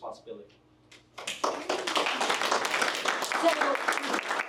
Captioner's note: hands clapping; attendees cheering